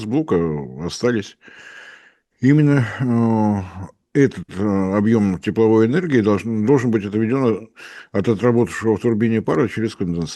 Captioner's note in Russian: вздыхает